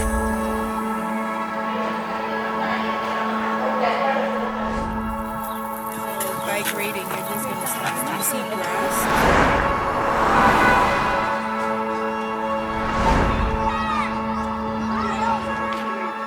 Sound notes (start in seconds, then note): 5.7 teenage voices, distant animals; 9.1 traffic, cars honking; 11.1 music builds; 13.0 children yelling, laughing